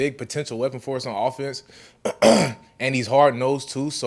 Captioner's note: clears throat